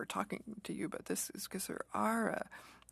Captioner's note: speaking French